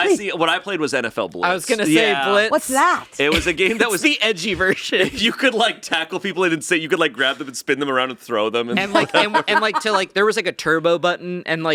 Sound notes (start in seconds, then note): 8.8 laughing